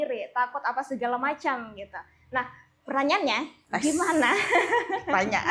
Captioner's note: laugh